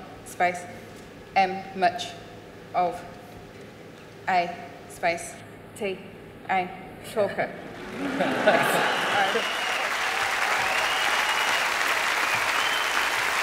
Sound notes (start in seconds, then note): 7.8 applause